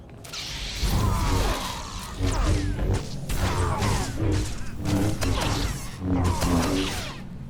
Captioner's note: gunfire